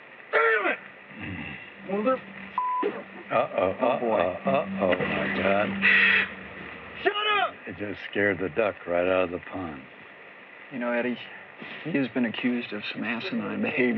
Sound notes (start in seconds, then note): 5.4 bird squawks